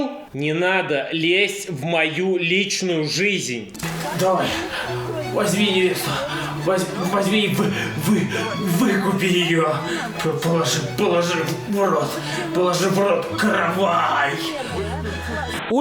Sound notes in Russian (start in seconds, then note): 3.8 звук помех; 13.3 помехи